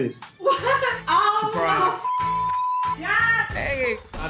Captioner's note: beep